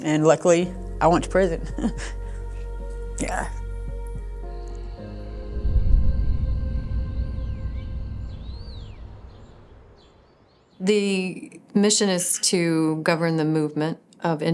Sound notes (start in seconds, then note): 4.1 crickets chirping; 7.6 birds chirping